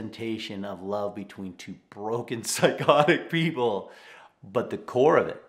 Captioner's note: chuckling